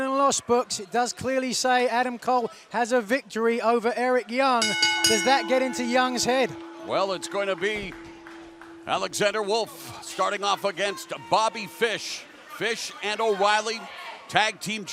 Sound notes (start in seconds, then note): 4.9 bell ringing